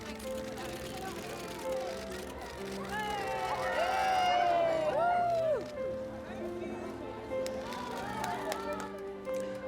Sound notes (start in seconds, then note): 0.0 cameras snapping; 2.9 crowd cheering